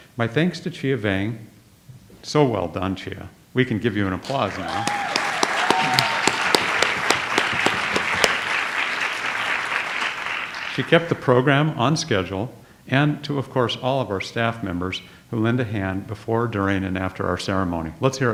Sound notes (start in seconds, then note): 4.2 audience applauds